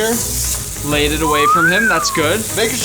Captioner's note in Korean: 휘파람